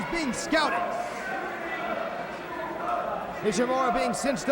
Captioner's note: crowd chatter